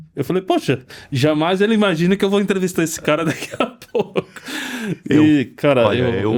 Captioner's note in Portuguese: risadas; suspirando